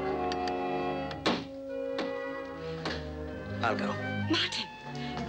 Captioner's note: suspenseful orchestral music; knocking on door